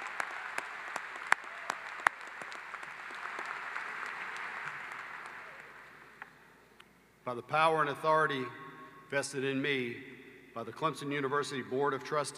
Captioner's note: applause